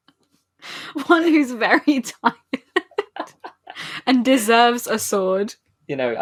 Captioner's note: laughing